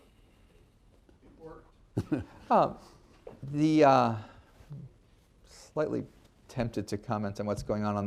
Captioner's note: laughter